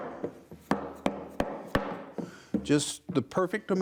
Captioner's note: hammer thuds